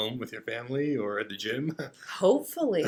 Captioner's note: laughs